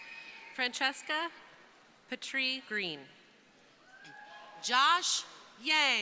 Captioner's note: crowd cheering; crowd cheering